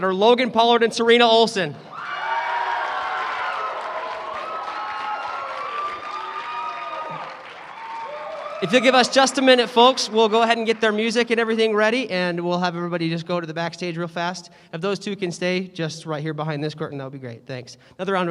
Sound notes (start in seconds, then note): 2.0 cheering